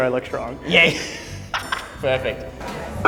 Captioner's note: laughs